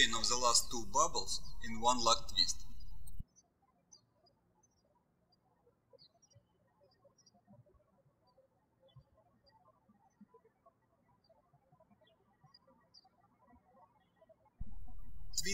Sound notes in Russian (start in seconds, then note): 3.3 птички щебечут